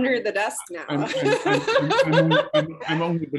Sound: laughs

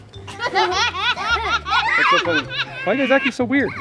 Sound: laugh

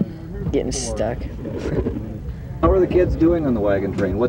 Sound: laughs

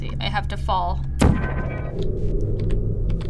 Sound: faint humming; gun zaps

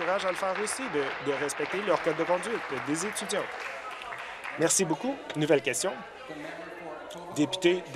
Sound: applause

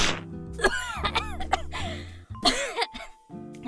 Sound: coughs

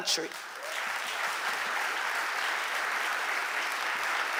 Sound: audience applauding

